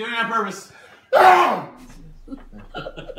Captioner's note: sneezes; group laughing